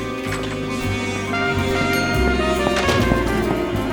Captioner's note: elevator dings